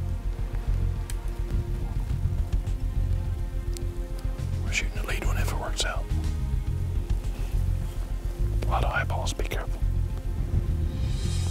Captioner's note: whispering